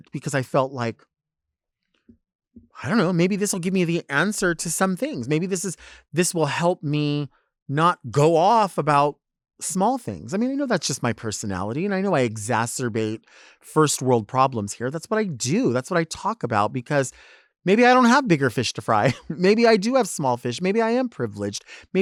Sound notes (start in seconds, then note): 19.0 speaker chuckles